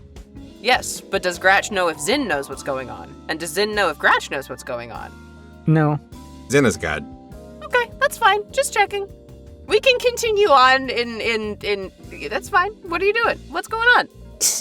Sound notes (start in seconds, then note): none